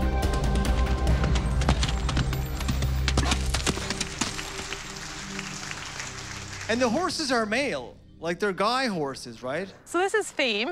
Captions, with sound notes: (Applause) And the horses are male... like their guy horses right?